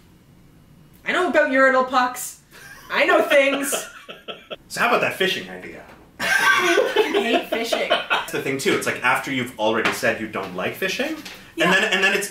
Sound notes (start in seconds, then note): 2.6 laughs; 6.2 laughs